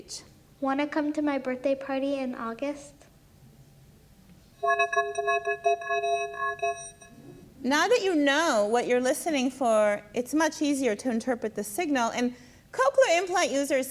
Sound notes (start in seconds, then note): 0.3 voiceover; 4.0 voice speaks distorted, metallic speech